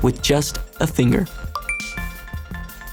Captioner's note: apple pay chime